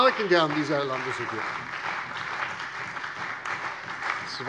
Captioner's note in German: Beifall bei der CDU und dem BÜNDNIS 90/DIE GRÜNEN